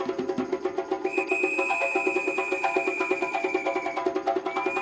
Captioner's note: whistle trilling